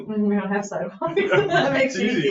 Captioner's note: laughs; members laugh